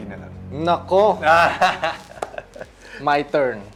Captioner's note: laughs